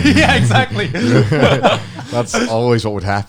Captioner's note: laughing